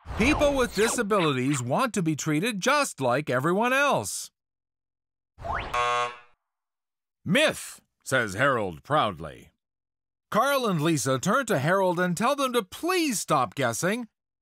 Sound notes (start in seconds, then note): 5.7 buzzer